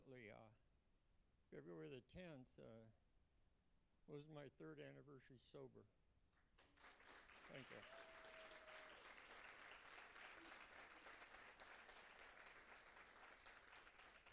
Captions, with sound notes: And fortunately, February 10th was my third anniversary sober. (Applause). - Thank you. (Cheers and applause).